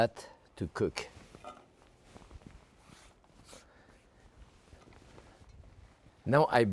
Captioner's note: ingredients thudding softly